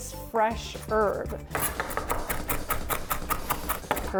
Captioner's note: knife cutting